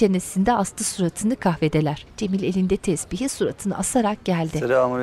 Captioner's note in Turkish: Kuş sesleri